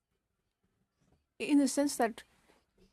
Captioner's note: speaking French